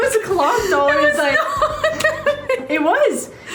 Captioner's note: laughing